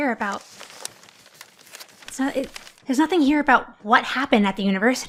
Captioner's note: newspaper rustling